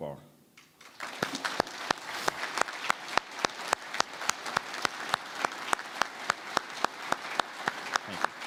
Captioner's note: applause